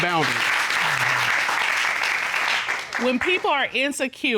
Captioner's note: applause